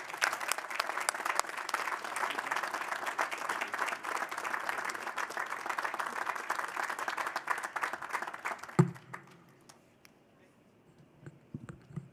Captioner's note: applause